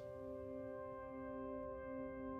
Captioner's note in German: Monotoner Klang